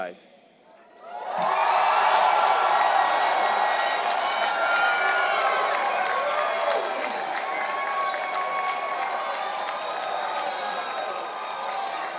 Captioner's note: applause